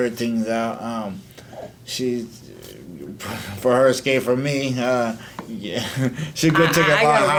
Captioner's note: laughs